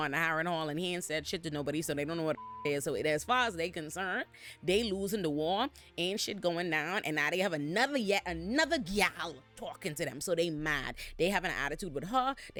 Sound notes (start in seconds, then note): 2.4 beep